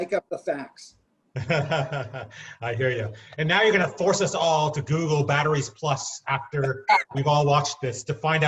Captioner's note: laughing